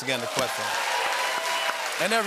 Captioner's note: cheers and applause